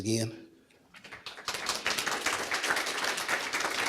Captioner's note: applause